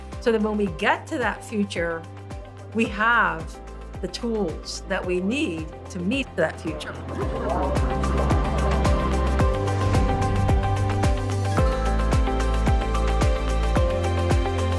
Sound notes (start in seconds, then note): 6.8 people chattering; 7.2 bright music